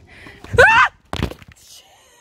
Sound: screams

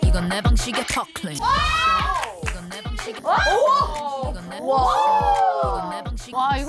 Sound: exclaiming

